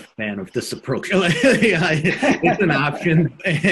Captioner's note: laughs loudly